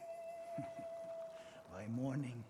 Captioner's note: laughs